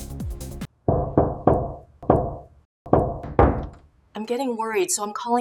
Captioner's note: knocking on door